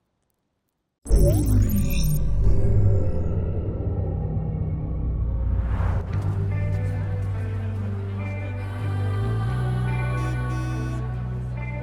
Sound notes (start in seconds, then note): 1.1 dramatic intro sound; 7.8 gentle alternative music playing